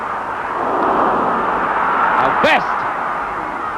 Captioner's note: crowd exclaim